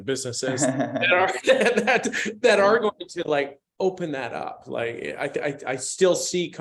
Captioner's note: laughter